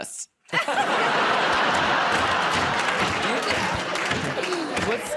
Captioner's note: laughter